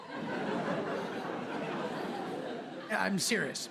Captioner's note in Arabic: ضحك